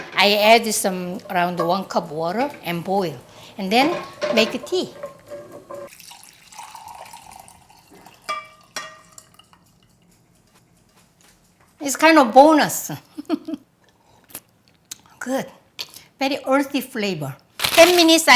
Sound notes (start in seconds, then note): 5.8 syrup pouring; 13.4 laughs; 14.0 slurping